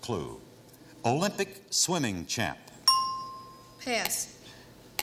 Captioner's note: ting